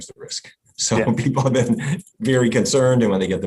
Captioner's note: laughs